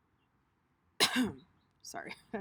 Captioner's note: coughs